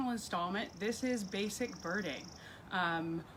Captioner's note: bird trill